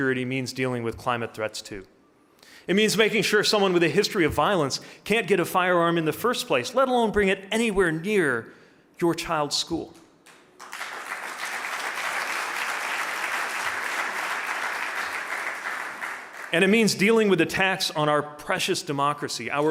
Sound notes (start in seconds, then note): 10.3 audience applauding